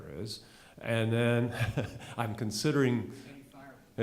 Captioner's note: chuckles